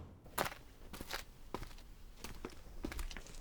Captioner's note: footsteps passing